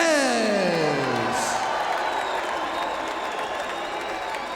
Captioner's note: crowd applauding